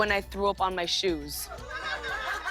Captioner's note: laughter